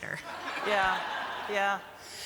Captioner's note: laughter